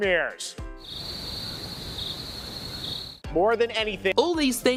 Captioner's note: crickets